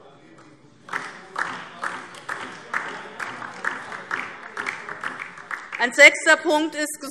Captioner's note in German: Beifall DIE LINKE